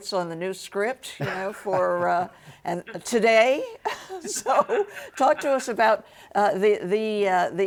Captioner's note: laughs